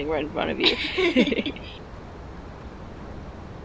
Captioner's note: both laughing